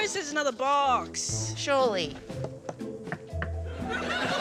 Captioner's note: knocks